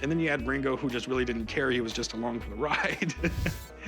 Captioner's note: laughs